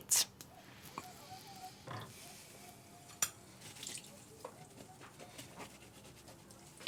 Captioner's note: rag scrubbing; water trickling